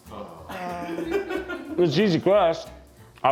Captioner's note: chuckles